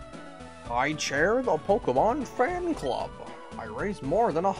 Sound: goofy voice

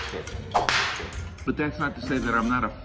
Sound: whip cracking

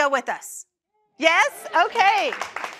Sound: applause

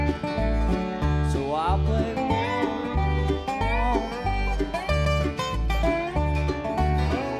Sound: imitating dobro

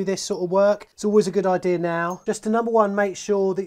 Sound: metal clinks

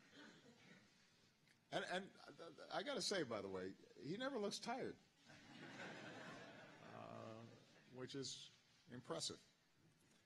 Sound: laughter; laughter

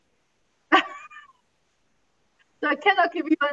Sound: chuckles

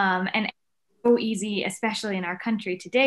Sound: audio distorts

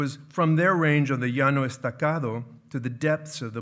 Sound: speaking in foreign language

